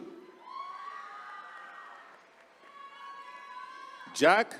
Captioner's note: attendees cheering